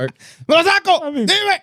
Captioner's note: speaking In Foreign Language